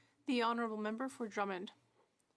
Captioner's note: speaking French